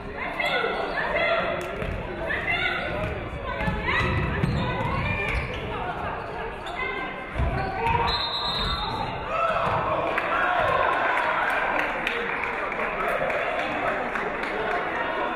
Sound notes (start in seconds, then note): 7.9 referee whistles; 10.0 audience clapping